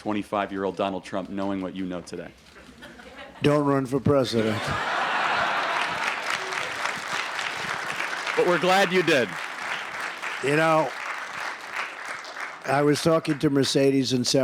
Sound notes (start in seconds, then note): 2.6 laughter; 5.9 laughter and applause